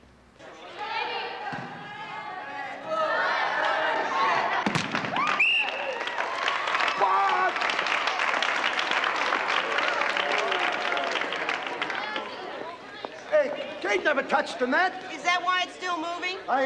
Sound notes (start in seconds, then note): 0.4 chatter; 5.2 whistle blows; 7.1 applause